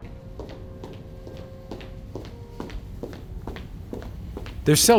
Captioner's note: footsteps thudding